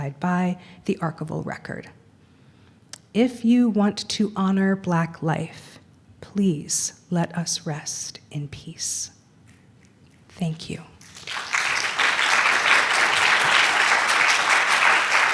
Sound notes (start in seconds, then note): 11.0 applause